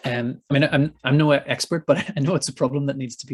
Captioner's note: chuckles